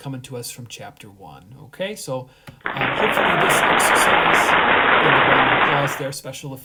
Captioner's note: applause